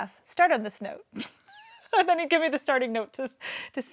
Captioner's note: laughs